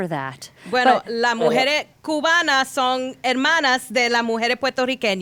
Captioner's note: speaking Spanish